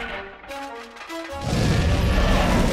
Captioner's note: roars